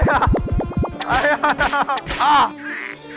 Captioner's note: slap